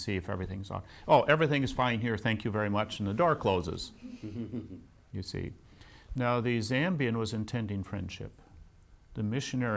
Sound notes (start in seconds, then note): 4.0 laughs